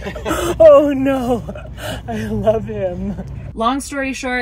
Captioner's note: laughing